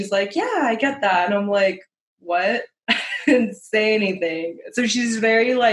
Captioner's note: laughter